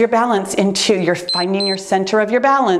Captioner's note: timer beeps